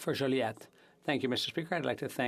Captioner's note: speaking French